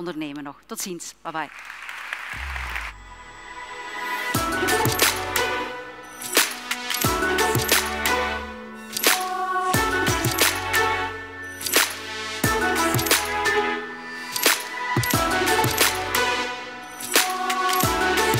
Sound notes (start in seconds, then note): 1.5 audience applauding; 2.3 upbeat music